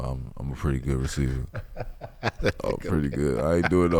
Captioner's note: laughing